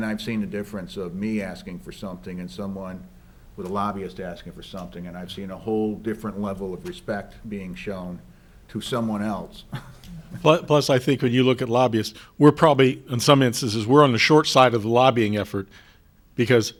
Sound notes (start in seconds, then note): 9.6 chuckles